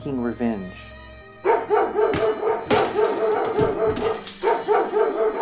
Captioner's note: sudden dog bark, shattering sounds